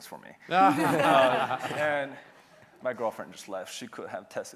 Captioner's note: laughter